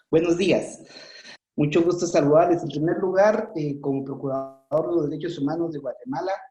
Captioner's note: speaking in foreign language